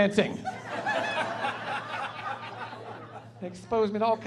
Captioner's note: laughing